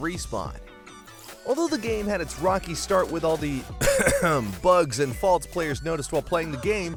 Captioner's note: clears throats